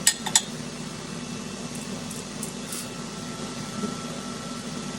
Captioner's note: mixer whirring